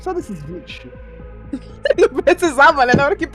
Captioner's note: laughs